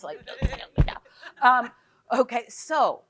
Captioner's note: group chuckles